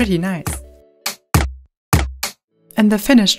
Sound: rhythmic pops at different pitches

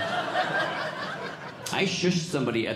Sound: audience laughing

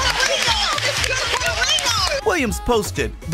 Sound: applause

